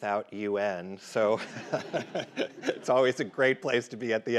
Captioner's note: laughs